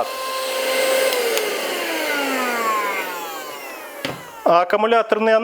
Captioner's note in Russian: шум мотора